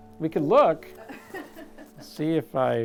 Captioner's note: off-camera laughter